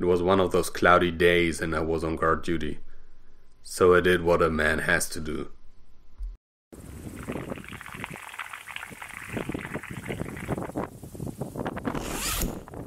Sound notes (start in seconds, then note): 7.0 pouring, Zip